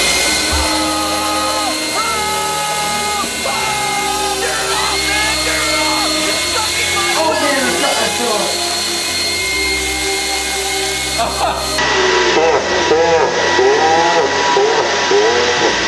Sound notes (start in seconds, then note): 0.3 buzzing sound; 0.4 screaming; 10.1 buzzing; 10.1 slow-motion laughter